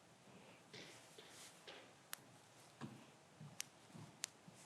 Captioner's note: footsteps approaching